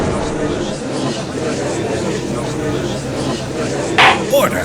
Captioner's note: gallery chattering